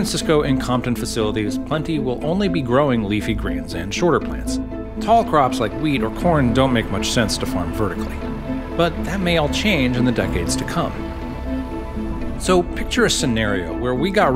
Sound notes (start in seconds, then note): 7.8 combine engine rumbles